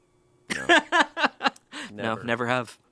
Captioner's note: laughs